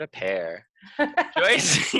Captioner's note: laughing